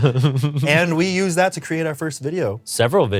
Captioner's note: Ian laughs